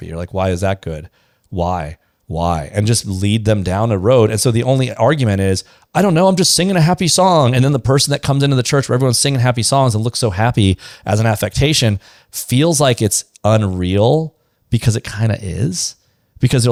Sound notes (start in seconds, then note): none